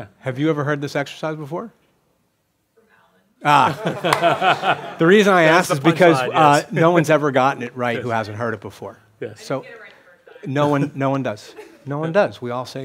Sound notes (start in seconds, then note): 2.2 voiceover; 3.5 laughing; 9.3 voiceover